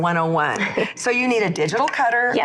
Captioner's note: laughs